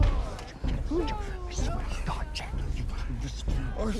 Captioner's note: whispering